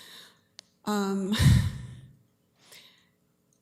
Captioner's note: sighs